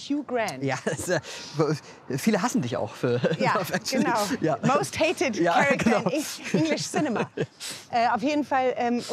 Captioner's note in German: lacht